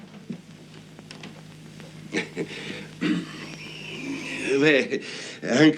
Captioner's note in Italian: schiarire la voce